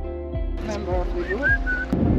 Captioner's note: whistles